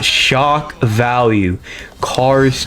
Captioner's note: inhales Oxygen